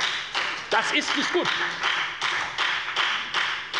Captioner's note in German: Beifall bei der FDP